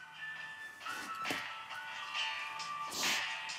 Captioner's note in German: Handy klingelt